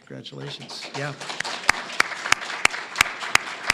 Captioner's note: applause